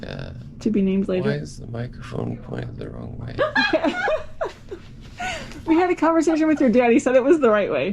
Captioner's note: laughter